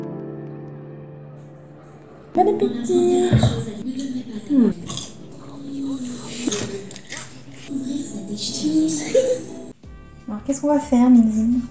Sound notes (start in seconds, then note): 4.6 the crunchiness; 6.3 crunch crunch